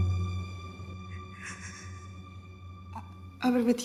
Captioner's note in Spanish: Sollozos